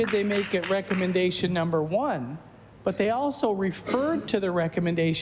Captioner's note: applause